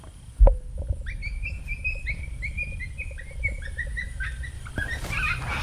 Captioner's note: coyote yipping